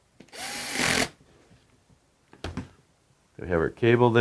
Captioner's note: drill whirring